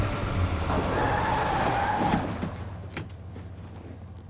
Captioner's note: tires screeching